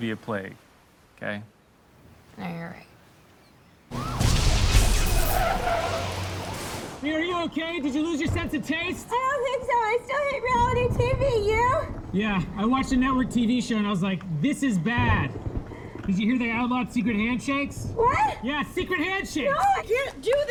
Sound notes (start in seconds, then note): 3.9 siren wailing; 3.9 explosions